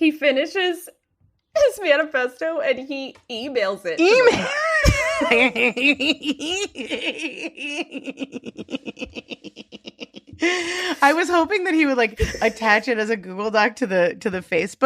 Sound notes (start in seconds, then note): 4.0 laughing; 9.6 cackling